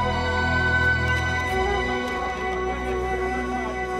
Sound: crowd bustling

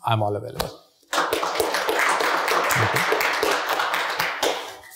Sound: audinence clapping

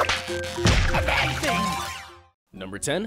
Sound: pops; energizing music

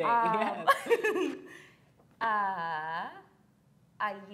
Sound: laughs

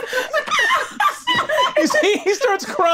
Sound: all laughing

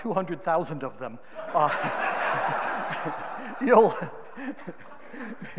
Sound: audience laughing

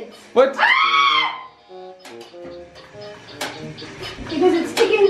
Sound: screaming

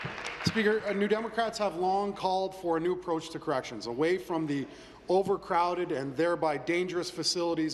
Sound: applause

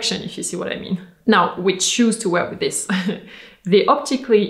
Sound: chuckles

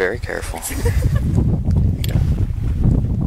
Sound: guests laughing

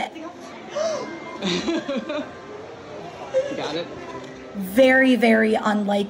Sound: gasping; laughing

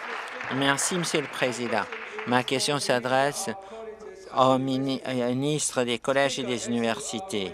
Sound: applause

